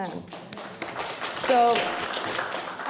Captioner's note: applauding